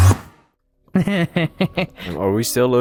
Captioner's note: evil laughter